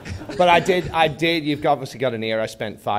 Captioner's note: laughter